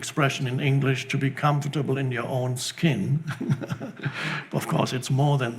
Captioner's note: laughs